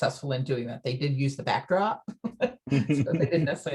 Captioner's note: both laugh